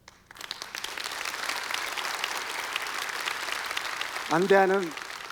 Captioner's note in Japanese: 拍手